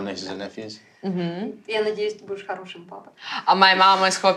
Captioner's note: speaks ukrainian